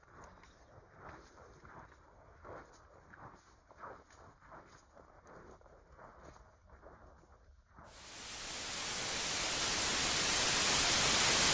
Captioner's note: Static